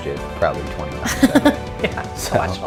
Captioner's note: laughs